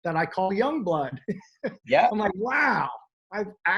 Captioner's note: chuckles